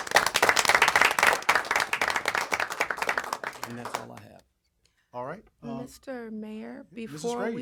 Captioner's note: applause